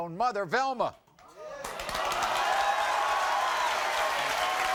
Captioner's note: audience applauding